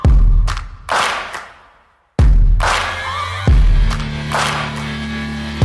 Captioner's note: Tepuk tangan